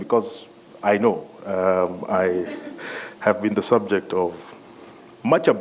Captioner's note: laughter